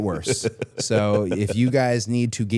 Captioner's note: Chad laughs